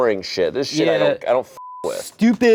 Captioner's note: beep